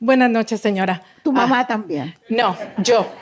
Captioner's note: speaking spanish